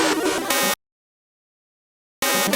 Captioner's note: silence